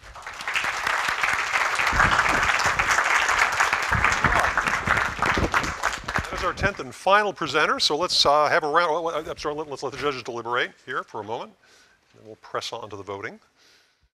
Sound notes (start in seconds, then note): 0.0 audience applause; 6.5 voiceover